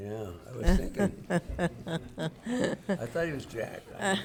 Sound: laughing

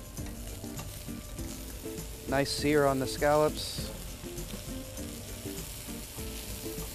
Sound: sizzling

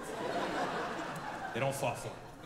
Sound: audience laughing

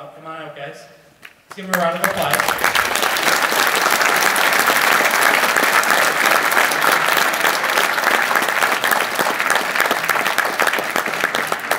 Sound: applause

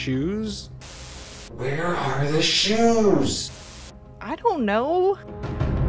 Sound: Static

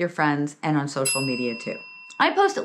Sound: bell ringing

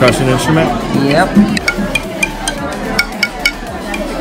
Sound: reeds tapping

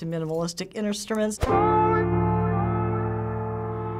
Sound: echoing

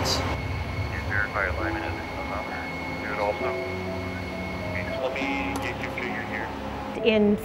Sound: background Conversation

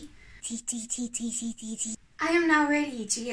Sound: chants

